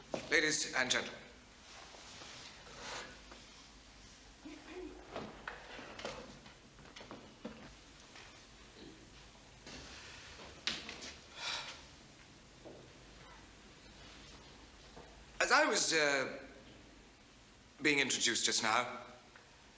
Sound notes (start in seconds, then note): 11.3 Hannay exhales